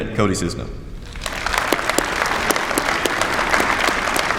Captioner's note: applause